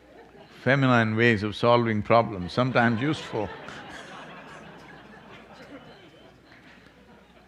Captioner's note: laughter